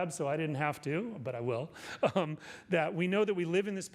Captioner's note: laughs